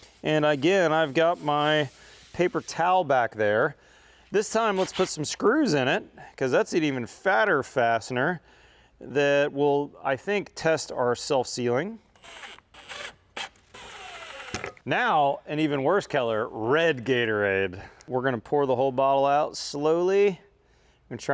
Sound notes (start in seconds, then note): 12.1 drill ratcheting